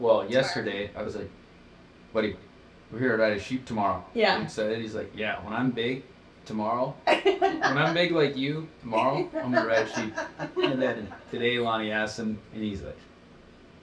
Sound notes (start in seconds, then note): 9.0 woman laughing